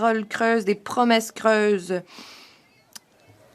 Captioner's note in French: voix de l'interprète